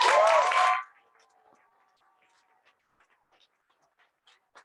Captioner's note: cheering and applause